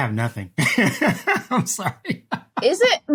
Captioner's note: laughs